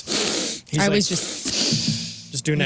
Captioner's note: sniffing